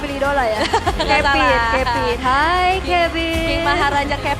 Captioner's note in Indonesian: tertawa